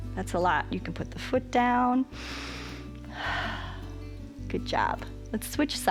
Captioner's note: inhales and exhales